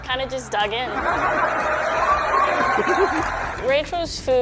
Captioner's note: audience laughing and cheering